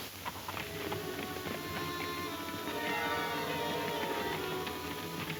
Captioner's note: horses galloping